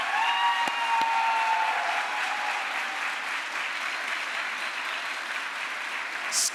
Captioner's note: crowd applause